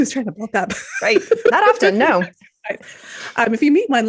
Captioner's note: laughs